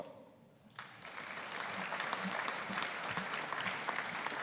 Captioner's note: audience applauding